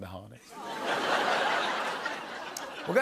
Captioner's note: laughter